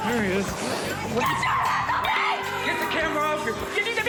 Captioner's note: screaming